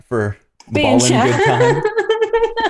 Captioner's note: laughter